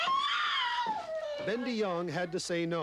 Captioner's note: baby cries